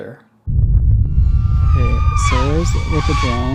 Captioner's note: distorted sounds playing